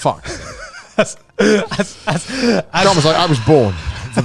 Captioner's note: laughing, breathes loud